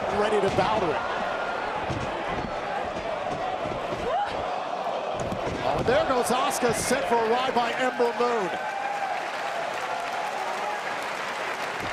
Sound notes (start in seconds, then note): 3.6 crowd chatter